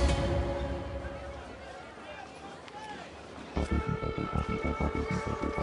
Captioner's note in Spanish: bullicio en el mercado